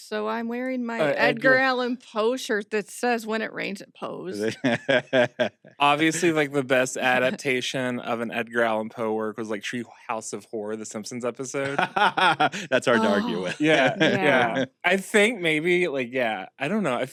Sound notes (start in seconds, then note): 11.9 laughs